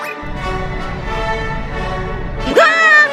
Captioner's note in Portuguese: zip; Som de foguete